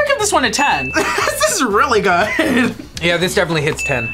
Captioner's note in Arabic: يضحك